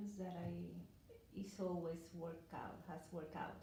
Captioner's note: none